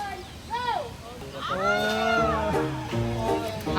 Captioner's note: weak screams